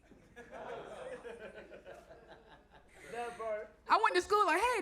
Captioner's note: audience laughs